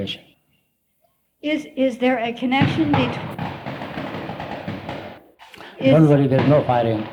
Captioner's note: noisy background